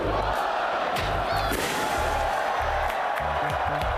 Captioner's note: cheering